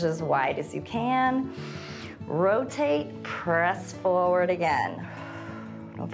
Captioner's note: inhales; exhales